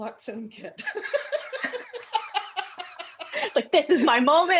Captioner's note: laughter